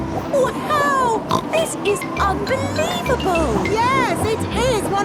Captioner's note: snorts